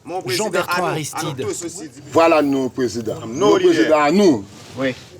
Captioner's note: French spoken audio